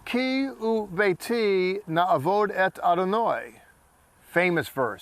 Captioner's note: speaking in Hebrew